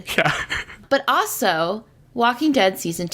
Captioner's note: laughs